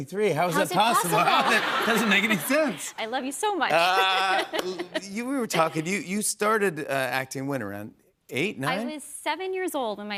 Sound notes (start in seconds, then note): 3.7 laughter